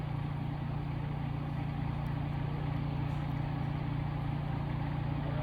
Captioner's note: engine humming